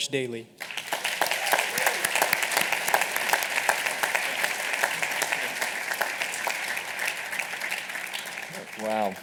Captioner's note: applause